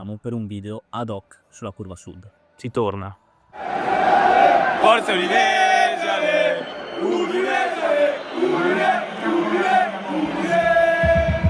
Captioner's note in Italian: Applauso